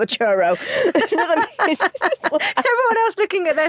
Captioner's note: both laugh